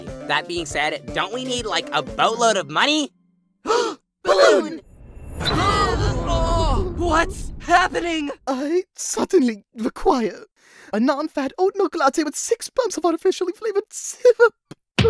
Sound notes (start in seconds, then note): 3.6 all gasp; 4.3 all groan